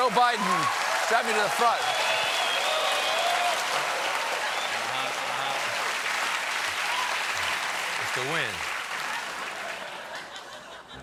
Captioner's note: cheers and applause